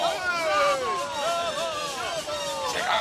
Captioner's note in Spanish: ovación